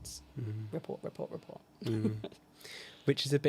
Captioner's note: chuckles